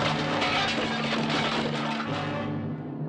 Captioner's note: crashing